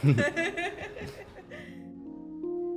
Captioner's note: laughter